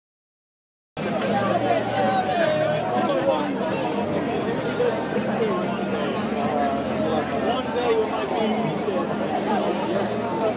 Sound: market noise

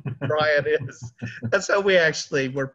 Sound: laughing

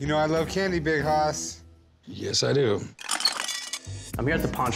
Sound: candy clatters

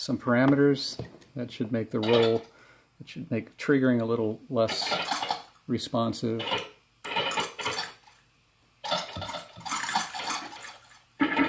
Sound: electronic sounds

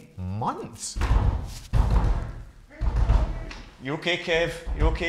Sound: muffled yelling

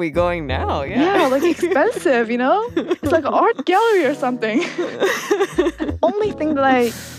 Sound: both laugh

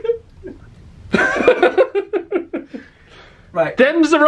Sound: laughs

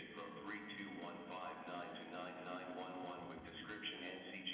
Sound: automated Voice

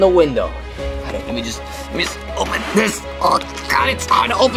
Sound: grunts

